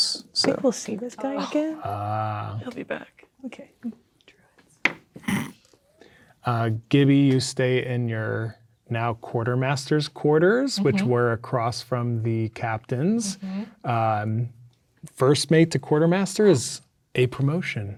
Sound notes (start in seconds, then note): 4.6 whispers; 5.2 snickers